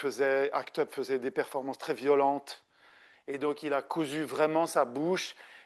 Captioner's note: continues speaking French